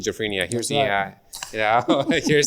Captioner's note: chuckling